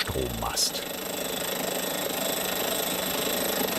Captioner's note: hammering drilling